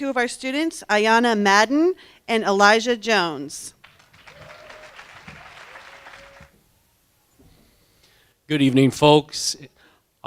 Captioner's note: applause